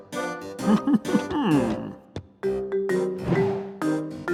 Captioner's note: chuckles